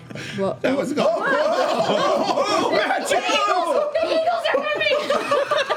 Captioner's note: yelling and laughing